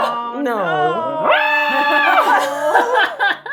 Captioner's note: screaming; laughing